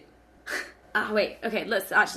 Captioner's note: laughing